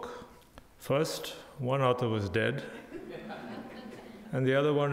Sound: crowd laughing

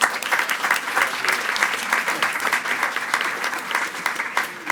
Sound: attendees clapping

